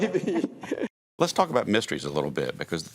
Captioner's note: laughing